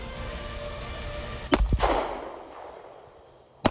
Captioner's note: gun shots